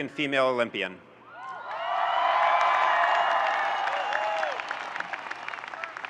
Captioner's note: audience cheering and applauding